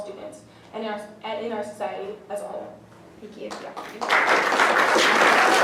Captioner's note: applause